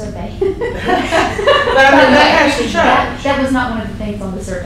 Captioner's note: laughter